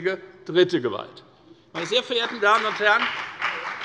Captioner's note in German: Beifall bei der FDP und der CDU